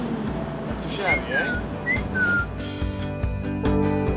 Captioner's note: whistle